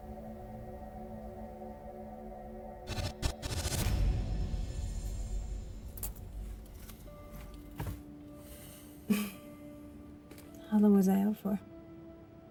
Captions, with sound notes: (Static buzzing) (Light dramatic music) (Isabella chuckles) - How long was I out for?